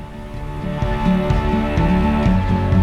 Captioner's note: birds chirping